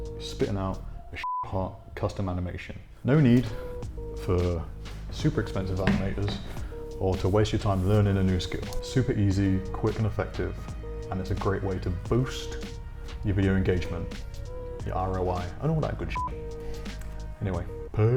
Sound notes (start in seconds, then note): 1.2 beep; 16.1 beep